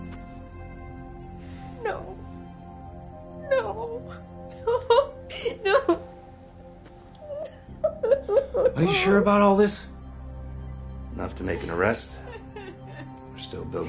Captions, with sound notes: No. No. No. (Sobbing) No. (Sobbing) Are you sure about all this? - Enough to make an arrest. - (Lisa sobbing) We're still building a case,